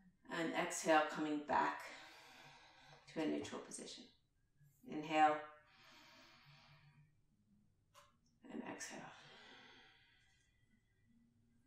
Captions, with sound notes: and exhale coming back (exhales) to a neutral position. Inhale (inhales), and exhale (exhales).